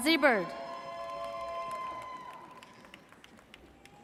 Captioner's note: audience cheers